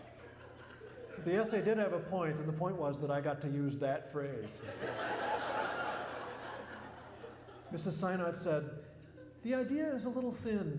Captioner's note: laughter